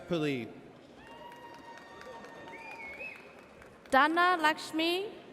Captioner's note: audience cheers